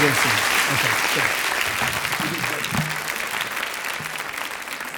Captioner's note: audience claps